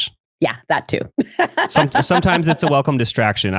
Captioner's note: laughs